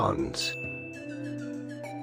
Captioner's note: ding